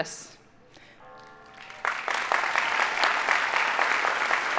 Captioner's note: audience applauding